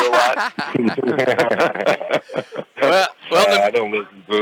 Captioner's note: laughter